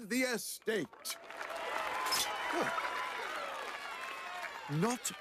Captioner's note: cheers & Applause